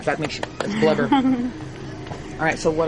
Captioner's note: laughter